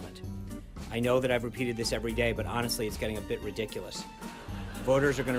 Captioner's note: raucous laugh track